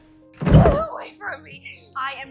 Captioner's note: shouting